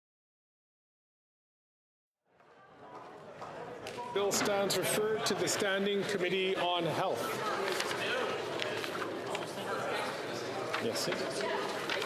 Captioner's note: some Applause